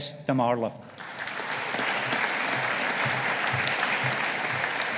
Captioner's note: audience applauding